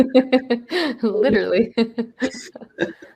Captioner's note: laughs